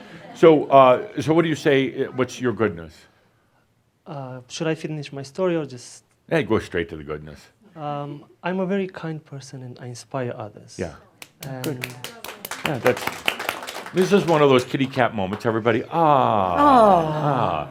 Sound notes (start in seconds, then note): 11.2 some applause